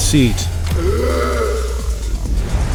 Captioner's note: harsh breath